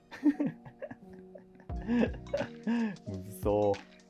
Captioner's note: laughing